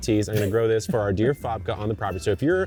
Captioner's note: chuckling